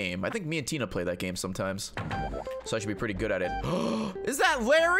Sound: gasps

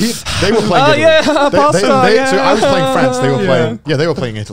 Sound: breathing heavily

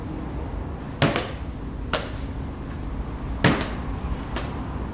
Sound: ball bouncing

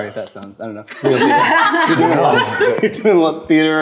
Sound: voices are drowned by the laughter

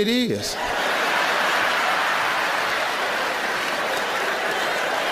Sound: audience laughing

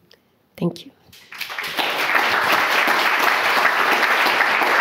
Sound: audience applauding

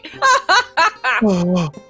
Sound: laughs

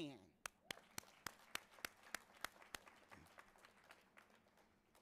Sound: audience applauding

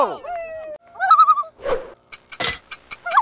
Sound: loon calls

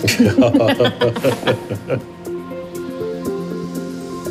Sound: both laughing; suspenseful music

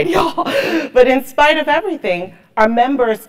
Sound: laugh

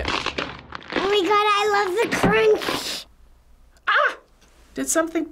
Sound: video crunches

